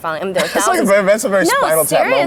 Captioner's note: laughs